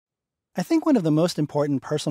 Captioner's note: voiceover